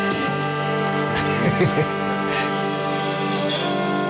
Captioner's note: laughs